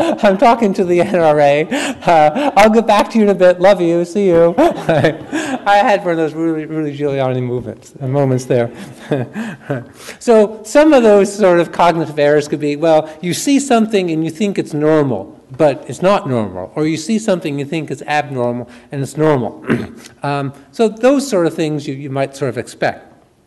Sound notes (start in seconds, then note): 4.4 laughs